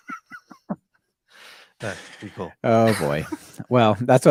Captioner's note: laughs